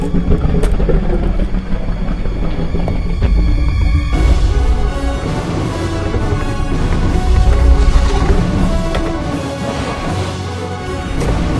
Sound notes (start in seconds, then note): 1.6 Indominus Rex growls; 4.7 dramatic music; 8.1 crashing sounds